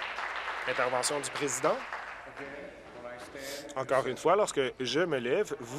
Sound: applause

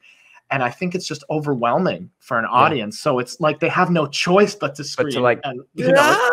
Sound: clap

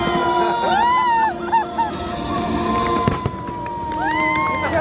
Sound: viewers exclaim

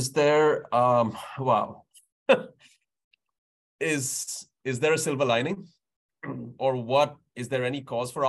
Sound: laughs

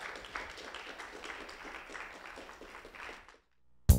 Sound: applause

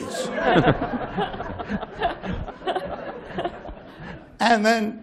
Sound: laughter

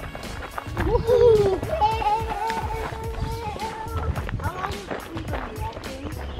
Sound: chatter

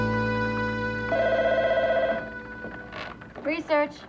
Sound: telephone rings

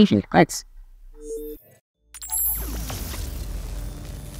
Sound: electronics beep

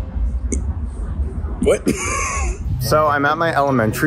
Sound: laughs

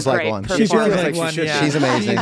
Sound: overlapping chatter

